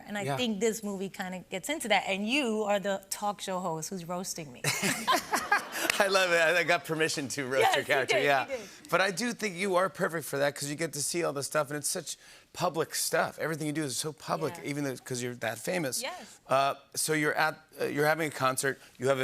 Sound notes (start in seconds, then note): 4.6 laughter